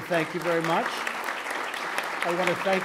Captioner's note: applause